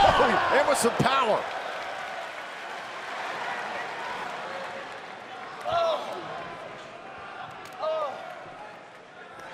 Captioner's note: crowd chatter